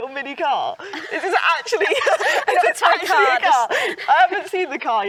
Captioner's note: both laughing